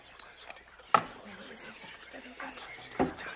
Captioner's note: instruments clinking